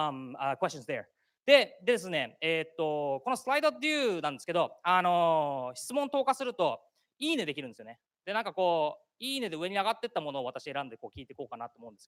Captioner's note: speaking japanese